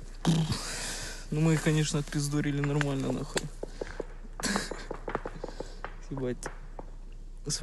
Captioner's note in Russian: Смеется